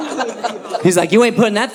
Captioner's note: audience laughing